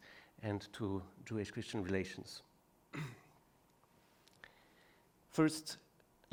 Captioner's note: clears throat